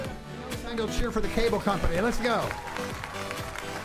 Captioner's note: applauding